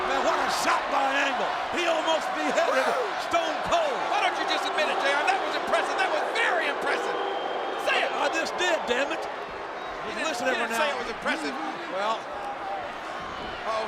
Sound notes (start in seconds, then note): 7.2 audience jeers